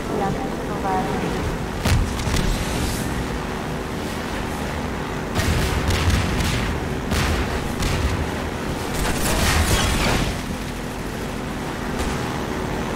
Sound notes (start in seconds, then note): 0.1 helicopter whirring; 1.8 gunshots; 5.3 explosion; 9.2 gunshots